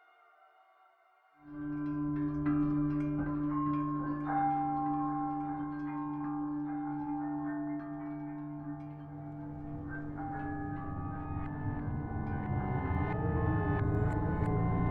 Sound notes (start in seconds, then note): 2.2 various chiming